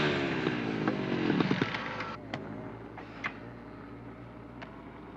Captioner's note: turns off engine